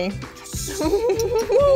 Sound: laughs

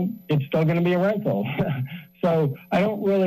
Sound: laughs

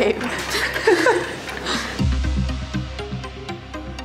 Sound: giggling

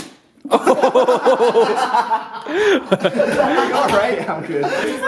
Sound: laughter

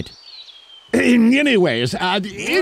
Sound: clears throat

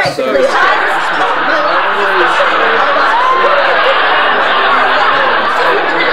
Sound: laughing

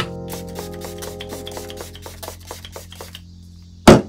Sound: spraying fixer

